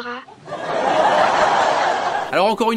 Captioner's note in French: ♫ Rires enregistrés